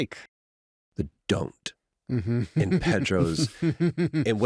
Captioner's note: neil laughs